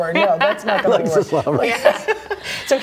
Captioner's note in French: laughter